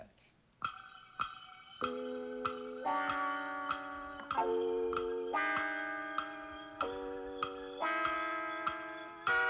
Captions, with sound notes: Think about that. [clock ticking]